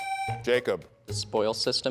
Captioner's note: tone sounds